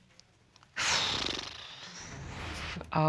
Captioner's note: flaps lips